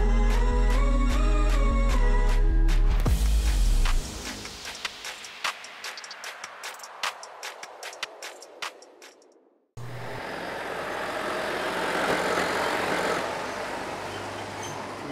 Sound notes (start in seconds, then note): 9.8 engine rumbling